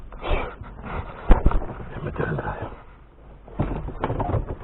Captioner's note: whispering